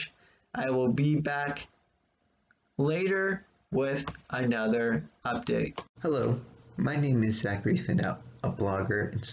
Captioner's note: click